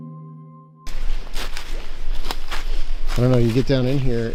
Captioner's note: leaves crunching